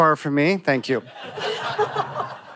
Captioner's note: laughter